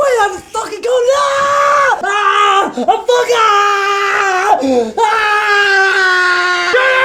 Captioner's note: screaming